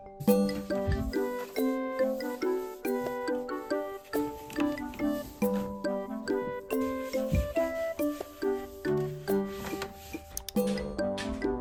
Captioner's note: wipe wipe